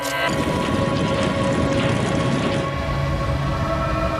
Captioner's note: machines roaring